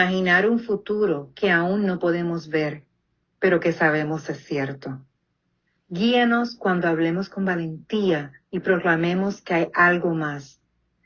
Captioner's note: speaks Alternative Language